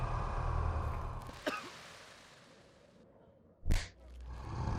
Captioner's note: dog growling; sand pattering; The King coughs; fist whacks